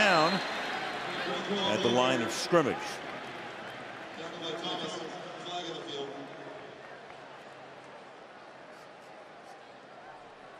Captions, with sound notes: Flag down at the line of scrimmage. [pa announcement]